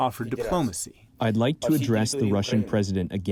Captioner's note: through translator